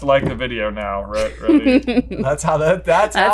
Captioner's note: chuckles